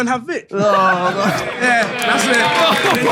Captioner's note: Harry groans